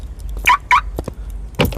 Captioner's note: car alarm chirps